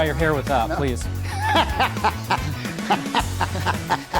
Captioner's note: laughing